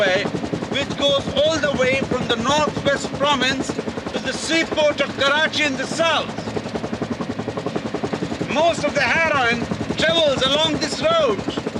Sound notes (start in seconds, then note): none